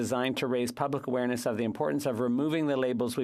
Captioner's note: speaking french